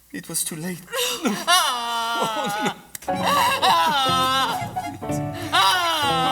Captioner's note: HANAN cries